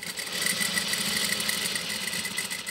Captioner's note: sewing machine rattling